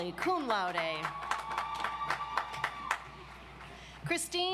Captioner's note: audience applauds